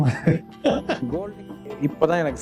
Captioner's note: laughs